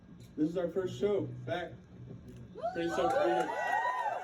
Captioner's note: cheering